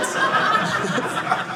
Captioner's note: audience laughing